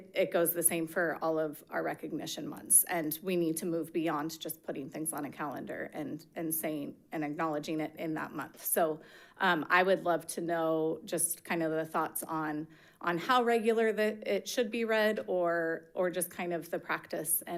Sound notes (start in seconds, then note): none